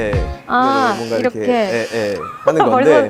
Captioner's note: squeak